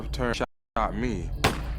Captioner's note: gun shot